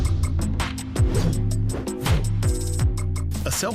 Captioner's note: sword whooshing